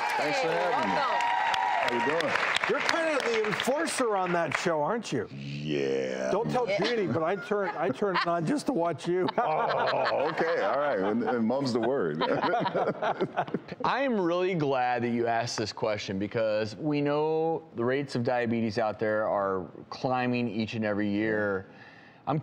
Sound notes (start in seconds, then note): 9.3 laughing; 12.1 laughing